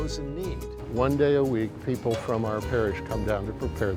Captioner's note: male Voice